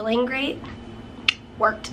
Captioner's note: clicks tongue